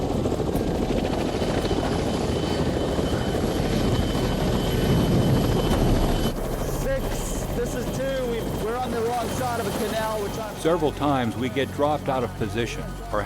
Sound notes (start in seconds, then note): 0.0 sound of helicopter rotors; 6.8 marine on radio; 10.7 voiceover